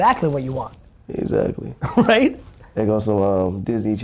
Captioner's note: chuckling